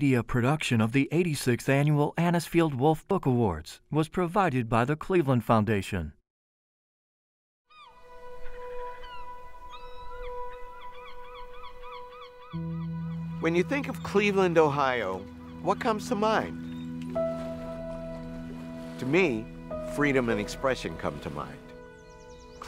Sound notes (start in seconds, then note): 7.8 seagulls squawking; 7.8 soft music; 16.5 waves lapping